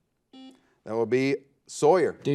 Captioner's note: buzzer